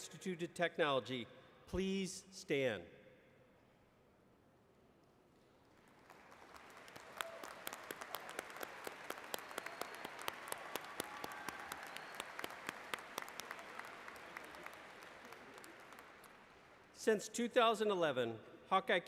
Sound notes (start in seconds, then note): 5.6 applause